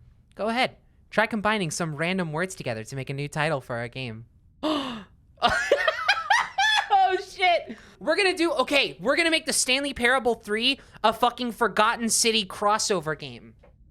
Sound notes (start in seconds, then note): 5.4 gasps, laughs